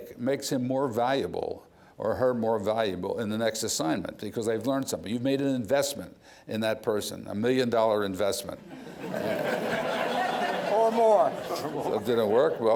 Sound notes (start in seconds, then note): 8.7 laughing